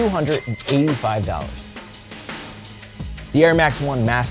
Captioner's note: cash register ringing